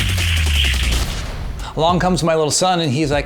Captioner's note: rapid beat music; slam